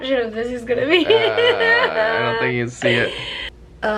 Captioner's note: laughter